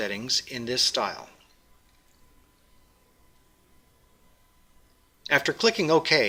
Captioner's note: pause